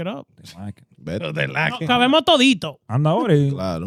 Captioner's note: speaking In Foreign Language